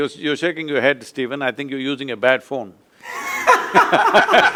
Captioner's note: laughter